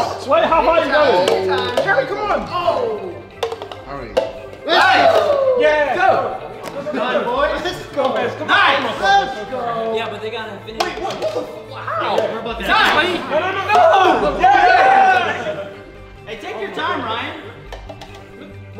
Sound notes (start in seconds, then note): 0.0 cup flipping; 4.4 group cheering